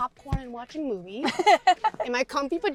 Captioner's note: Georgia laughs